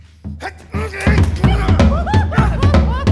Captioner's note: grunting